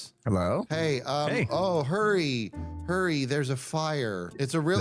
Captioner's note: flatly